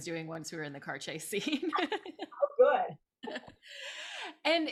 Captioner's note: laughs